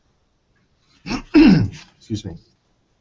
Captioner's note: clears throat